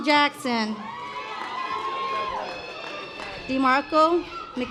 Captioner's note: audience applause